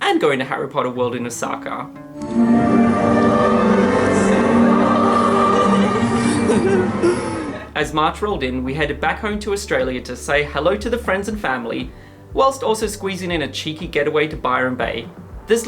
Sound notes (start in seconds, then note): 2.5 ethereal music; 5.6 laughing